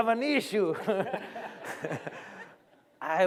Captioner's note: laughter